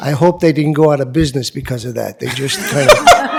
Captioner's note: laughter